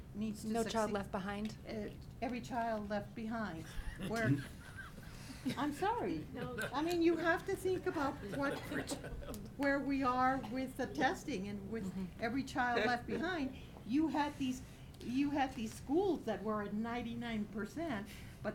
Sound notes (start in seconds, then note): 3.6 laughter